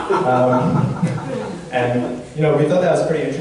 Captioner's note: audience laughs